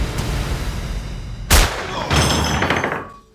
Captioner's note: gunshot